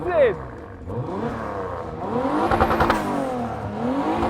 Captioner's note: loud revs